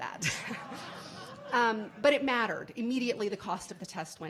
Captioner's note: laughing